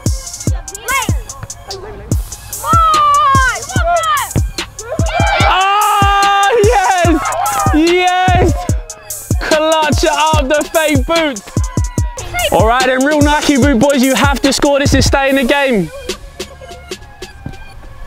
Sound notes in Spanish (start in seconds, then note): 5.1 vítores de la multitud